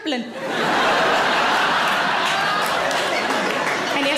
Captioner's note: audience laughing